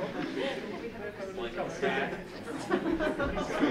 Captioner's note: laughter